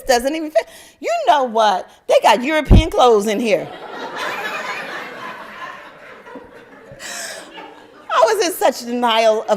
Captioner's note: laughter